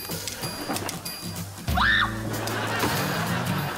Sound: shrieking

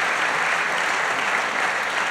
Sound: applause

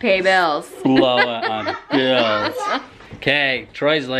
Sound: laughing

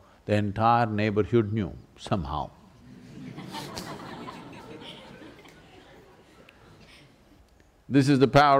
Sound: laughter

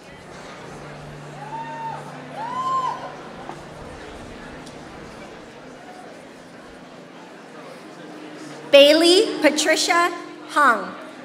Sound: applause

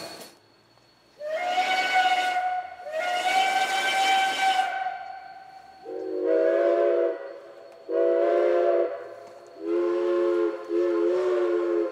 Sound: OY two long whistle blasts

